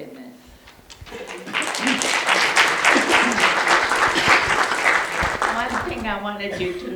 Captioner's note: audience applauds